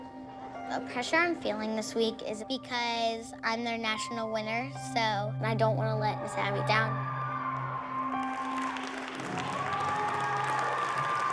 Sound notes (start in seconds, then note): 6.9 audience cheers and applauds